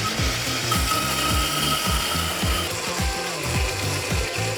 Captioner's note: blender running